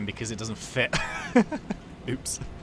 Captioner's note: laughs